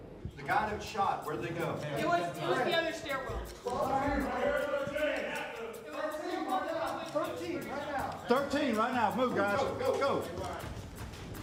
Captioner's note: officers talking to one another, echoing in stairwell, sharing scenario info